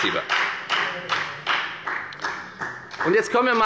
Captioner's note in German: Beifall bei der FDP